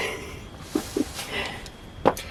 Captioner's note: laughs